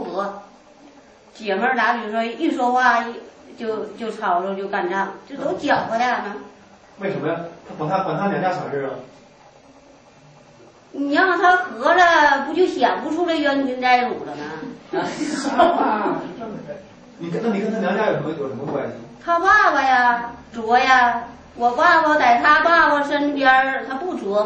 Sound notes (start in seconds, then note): 15.0 laughter